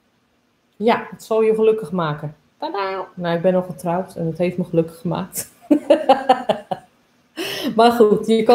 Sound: laughs

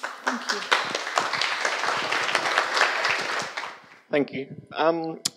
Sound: audience applauds

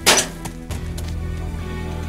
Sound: clash

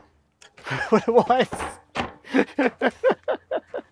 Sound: laughs

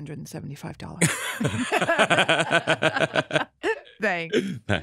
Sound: laugh

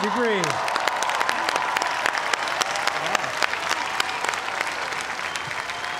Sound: cheers and applause

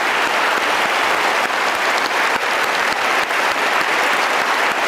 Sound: audience cheering continues

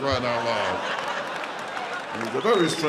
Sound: audience laughing

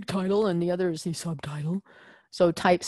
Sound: deep voice

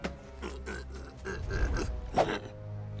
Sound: grunting

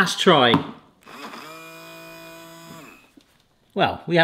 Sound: motor whirs

